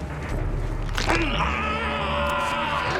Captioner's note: crunch